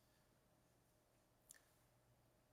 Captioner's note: none